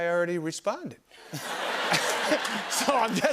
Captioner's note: laughter